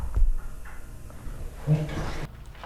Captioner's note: clicking; slowed down audio